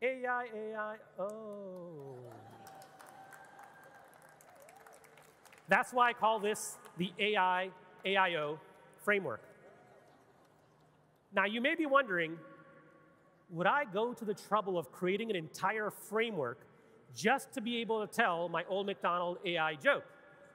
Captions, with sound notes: AI AI oh. (audience clapping and cheering) That's why I call this the AIAIO framework. (audience laughing and cheering) Now, you may be wondering, would I go to the trouble of creating an entire framework just to be able to tell my old McDonald AI joke?